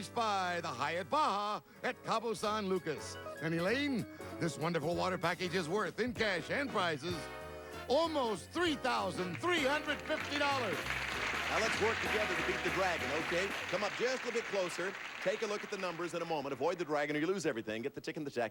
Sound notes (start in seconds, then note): 11.0 audience applauding